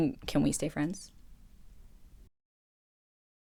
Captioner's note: ominous silence